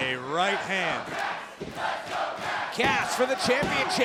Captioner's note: crowd cheering